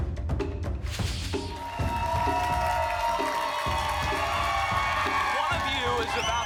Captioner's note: applause and cheering